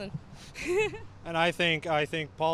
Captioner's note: laughter